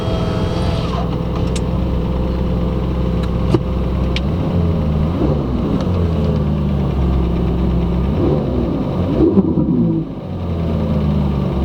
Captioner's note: engine revving a noticeable ticking coming from the exhaust